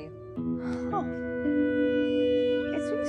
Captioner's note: Scoffs